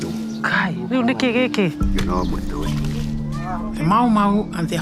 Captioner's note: speaking in foreign language